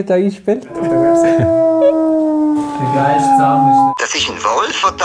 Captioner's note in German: Wolfsgeräusche